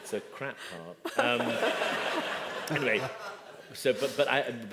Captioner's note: laughter